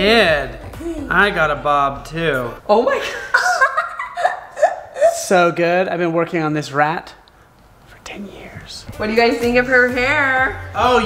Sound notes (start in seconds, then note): 3.0 laughs